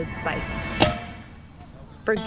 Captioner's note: clang